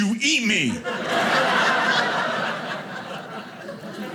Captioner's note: audience laughing